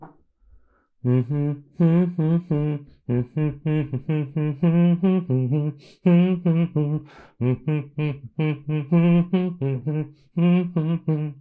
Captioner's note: humming a tune